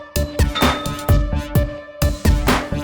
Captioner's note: ding